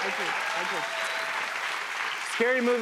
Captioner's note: cheers and applause